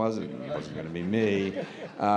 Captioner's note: laughter